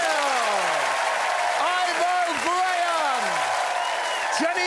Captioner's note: cheering and applause